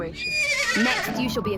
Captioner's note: horse neighs